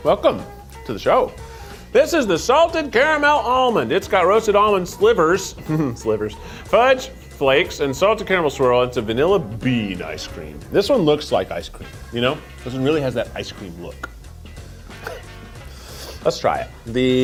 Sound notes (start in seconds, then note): 5.4 chuckles